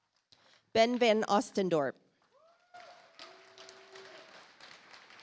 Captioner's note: audience applauds